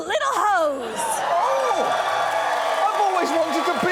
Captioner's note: crowd cheers